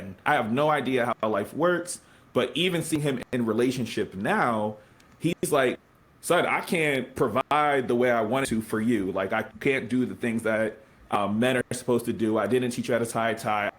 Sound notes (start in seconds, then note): none